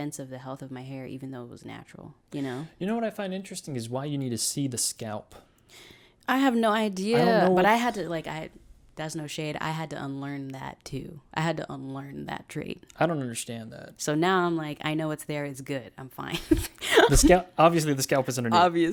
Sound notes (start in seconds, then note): 16.6 laughs